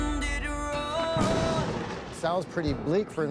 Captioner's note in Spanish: trueno estrellándose